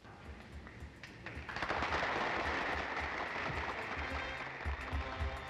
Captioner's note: applause